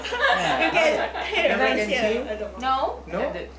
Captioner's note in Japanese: 聴衆笑い